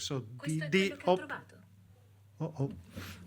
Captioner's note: reader speaks foreign language